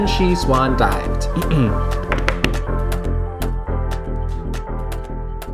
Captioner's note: clears throat